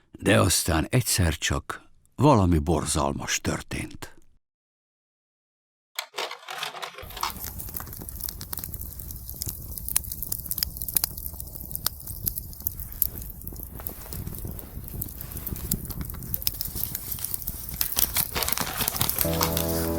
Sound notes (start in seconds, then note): 7.3 fire burning